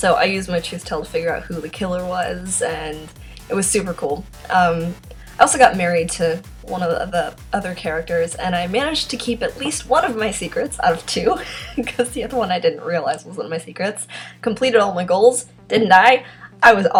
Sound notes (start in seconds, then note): 11.2 laughs